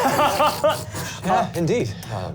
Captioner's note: laugh